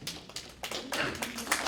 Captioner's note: applause